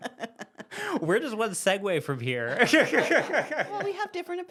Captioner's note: laughs